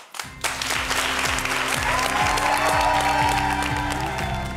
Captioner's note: applause